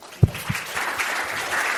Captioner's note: applause